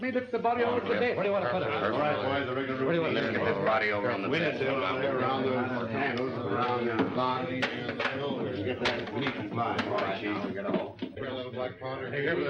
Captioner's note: multiple voices yammering